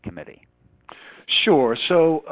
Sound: voiceover

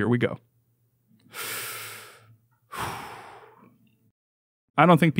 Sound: breathes deeply

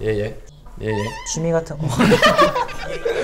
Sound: haha

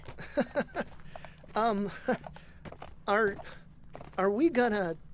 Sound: bashful laugh

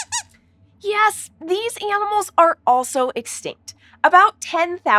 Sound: squeaks squeaking

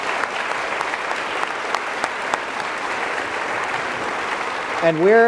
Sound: applause

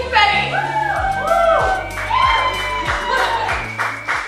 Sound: applause

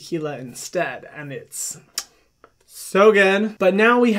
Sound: kissing

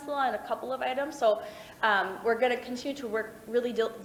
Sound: none

